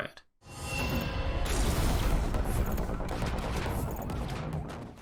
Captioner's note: sirens and gunfire